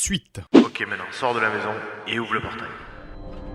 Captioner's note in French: voix au tél